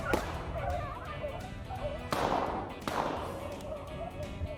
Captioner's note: gun firing